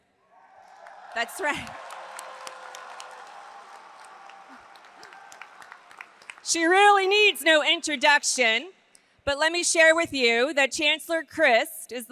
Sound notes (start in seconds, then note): 0.8 audience applauds; 3.4 hands clapping